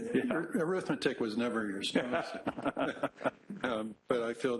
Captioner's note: laughter